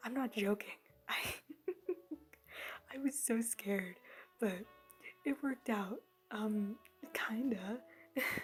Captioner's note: chuckle